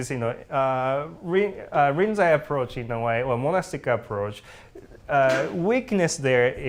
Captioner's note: sneeze